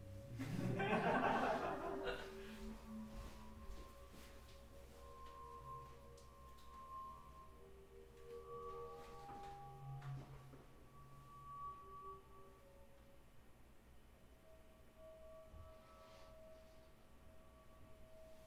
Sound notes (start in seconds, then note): 0.4 laughing; 3.6 high pitched sound playing